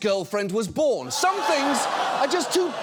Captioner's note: audience groans